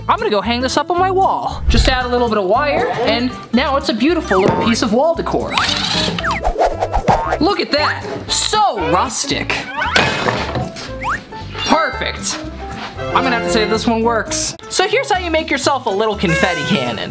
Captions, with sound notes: I'm gonna go hang this up on my wall. Just add a little bit of wire and now it's a beautiful little piece of wall decor. (drill whirring) Look at that. So rustic. Perfect. I'm gonna have to say this one works. So here's how you make yourself a little confetti cannon.